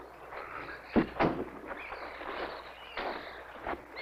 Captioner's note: door closing